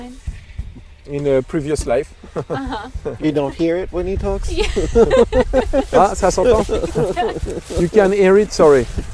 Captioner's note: asking questions in the distance; he chuckles; he laughs